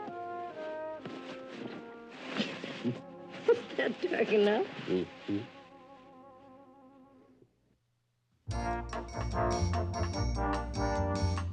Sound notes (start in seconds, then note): 2.6 İkisi de kıkırdayarak